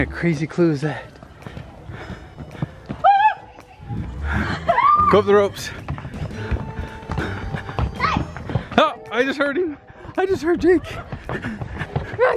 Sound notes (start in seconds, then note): 3.1 screaming